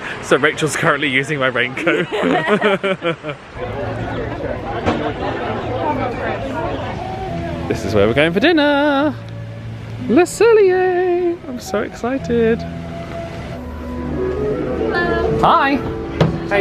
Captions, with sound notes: So Rachel's currently using my raincoat. (both laugh) This is where we're going for dinner! Le Cellier. - I'm so excited. - Hello. - Hi!